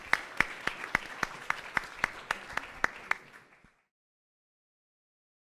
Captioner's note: audience applauds